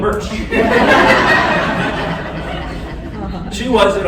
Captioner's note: laughter